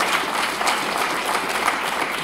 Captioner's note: applause